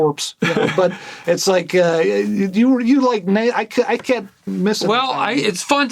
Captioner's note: stammers